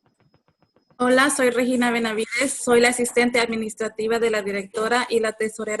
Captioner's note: speaking Spanish